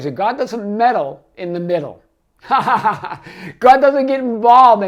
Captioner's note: laughs